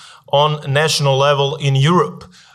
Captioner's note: none